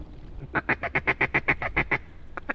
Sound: duck calling

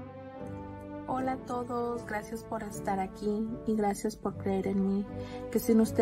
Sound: speaking in foreign language

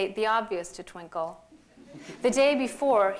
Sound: laughter

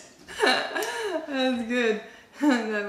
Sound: laughter

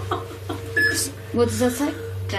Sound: loud beeping

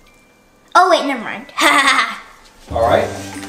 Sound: giggling

